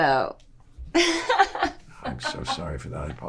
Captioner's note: laughing